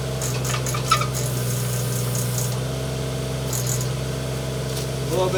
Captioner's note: engine humming